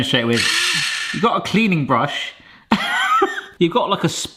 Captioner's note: laughs